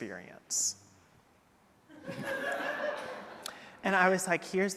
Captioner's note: audience laughing